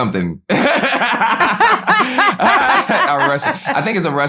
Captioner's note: laughter